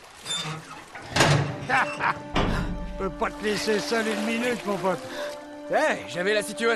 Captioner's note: laughs